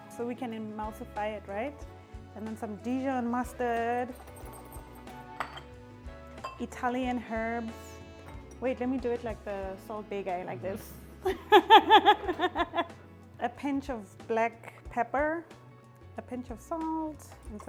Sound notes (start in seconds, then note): 11.5 laughs